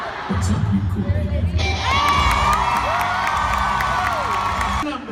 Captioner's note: audience cheering